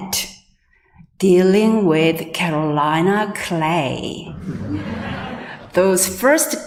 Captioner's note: audience laughing